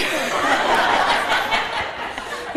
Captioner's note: laughter